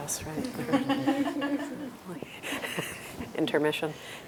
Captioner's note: laughter